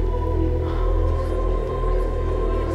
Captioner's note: Exhales